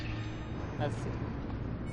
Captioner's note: indistinct chatter